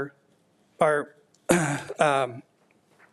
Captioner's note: clears throat